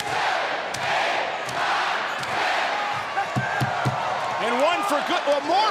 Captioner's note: applause